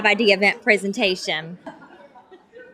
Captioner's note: laughter